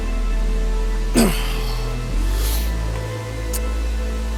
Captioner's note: Tex grunts